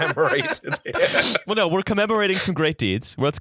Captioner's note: laughter